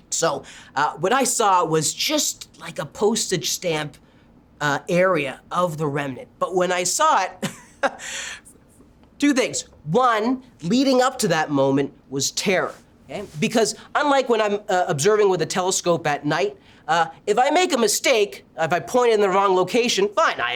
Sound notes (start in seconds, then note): 7.4 chuckles